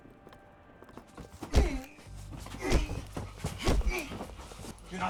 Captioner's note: grunting